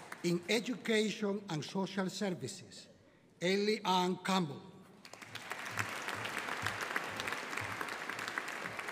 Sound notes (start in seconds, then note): 5.0 audience applauding